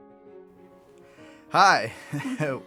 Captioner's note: laugh